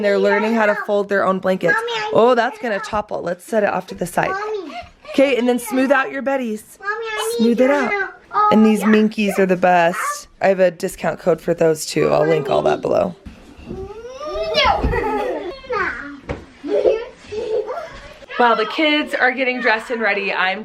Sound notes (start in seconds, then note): 15.6 children laughing